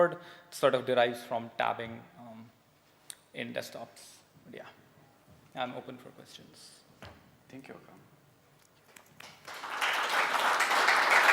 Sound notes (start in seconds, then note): 8.8 applause